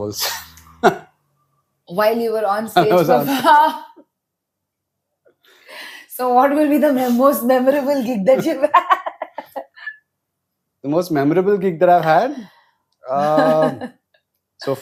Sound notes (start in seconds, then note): 0.2 laughs; 5.0 laughs; 8.3 laughs; 13.2 laughs